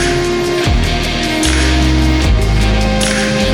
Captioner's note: clap clap